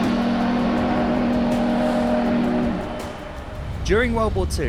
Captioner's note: whistle